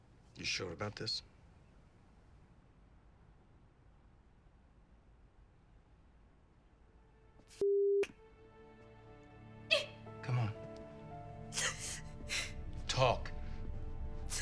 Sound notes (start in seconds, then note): 7.6 sobs